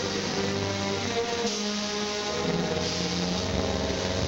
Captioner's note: machinery hissing